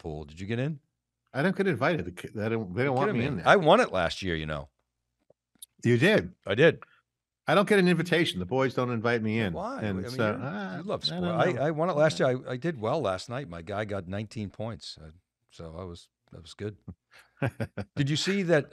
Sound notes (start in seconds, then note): 17.4 chuckles